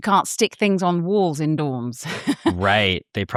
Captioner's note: laughs